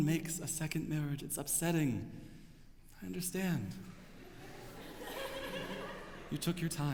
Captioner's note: laughter